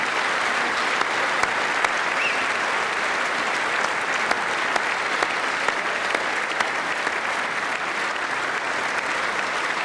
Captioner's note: applause